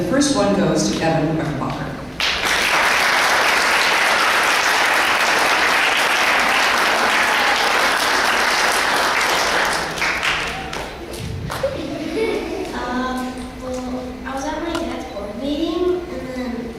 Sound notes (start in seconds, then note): 2.2 clapping